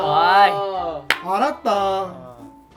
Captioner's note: clap